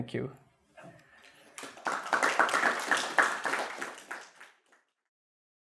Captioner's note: applause